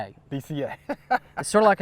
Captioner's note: laughs